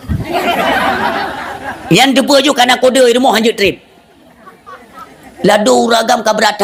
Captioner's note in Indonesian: tertawa